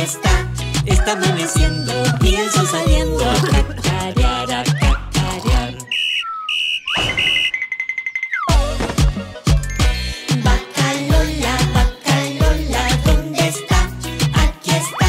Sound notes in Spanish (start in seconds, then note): 3.4 Ronquidos; 5.8 Sonido de silbato